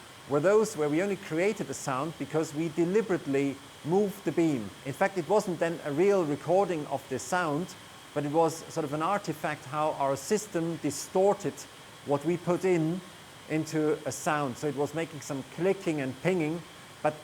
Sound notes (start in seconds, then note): none